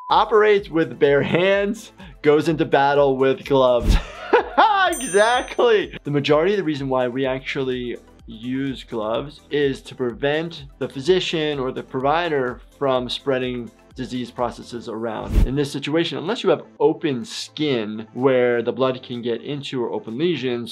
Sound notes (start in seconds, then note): 3.8 laughs; 4.9 bell rings